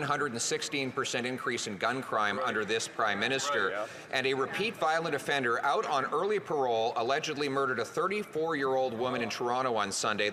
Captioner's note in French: voix de l'interprète